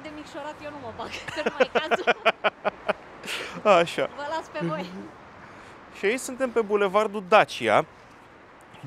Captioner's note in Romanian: Râsete